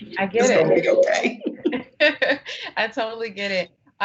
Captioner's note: laughing